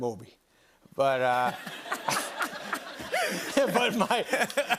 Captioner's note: laughter